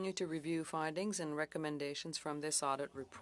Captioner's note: speaking French